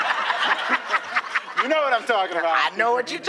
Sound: laughter

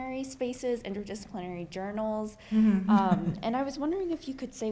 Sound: laughs

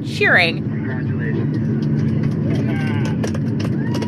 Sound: soundbite of archived recording; applause, cheering

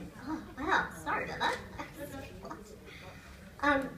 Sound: laughter

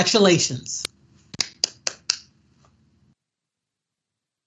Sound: clapping

